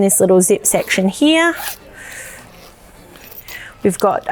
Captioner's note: zipper zipping